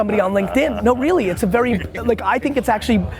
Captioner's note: laughing